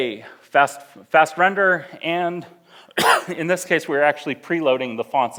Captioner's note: coughs